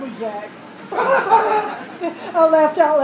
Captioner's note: laughter